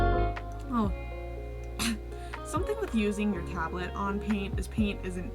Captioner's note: coughs